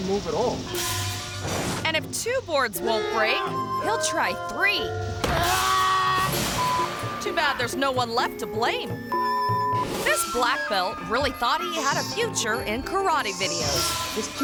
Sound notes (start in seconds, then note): 5.4 martial artist screams